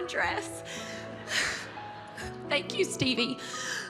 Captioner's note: laughter